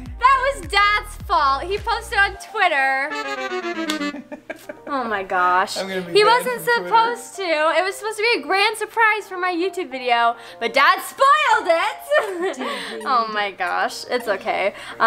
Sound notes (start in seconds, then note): 2.6 dramatic music; 3.8 laughing; 12.6 murmurs